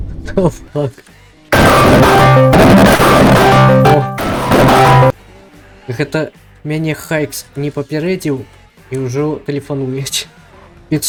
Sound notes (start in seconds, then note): 1.5 Discord bass-boosted